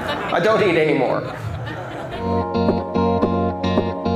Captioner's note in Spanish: risas